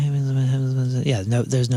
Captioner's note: mumbling